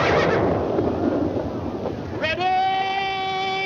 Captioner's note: fireworks exploding